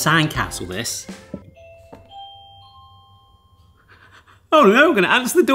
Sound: doorbell rings

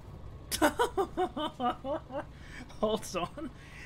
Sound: laughing slightly maniacally

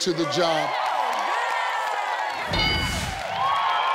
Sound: audience cheers

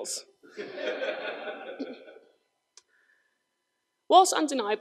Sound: crowd laughs

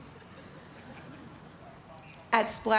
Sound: laughter

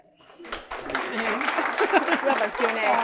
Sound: applause

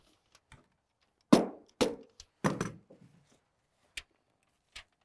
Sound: hammer pounding

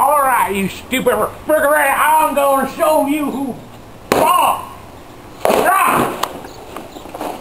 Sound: none

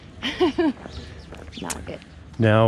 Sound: laughter

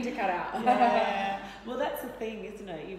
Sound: laughing

